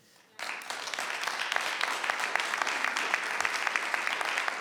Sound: audience applauds

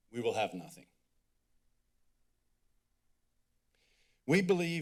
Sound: pause

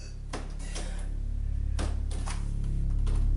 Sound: low droning

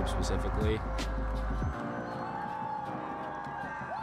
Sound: everyone cheers

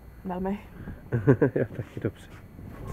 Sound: laughs

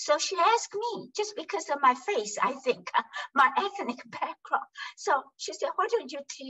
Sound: laughs

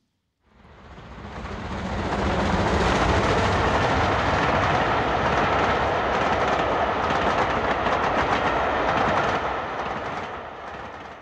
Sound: stream train passing

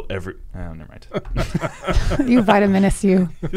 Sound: everyone laughing

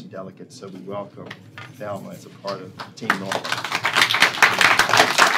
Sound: applause

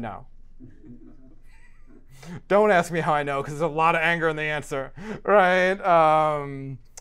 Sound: laugh

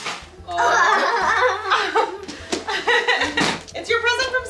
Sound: laughter

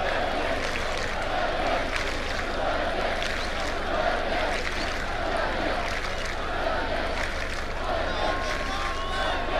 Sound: claps

